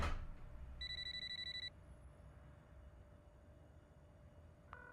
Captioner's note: cellphone ringing